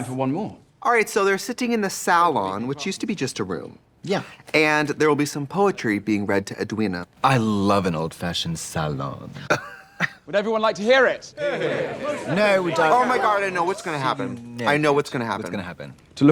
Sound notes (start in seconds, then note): 9.4 both laugh; 11.4 crowd exclaims